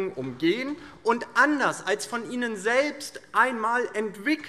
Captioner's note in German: none